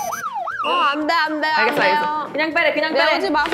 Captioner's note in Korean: 깨갱